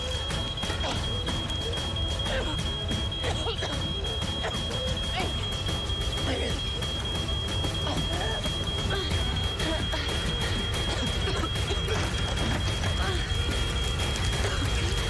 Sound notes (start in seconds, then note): 9.9 coughing